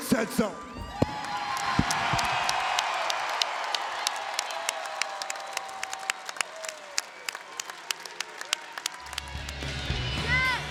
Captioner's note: applause